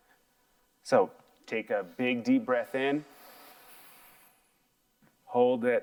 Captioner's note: breathes deeply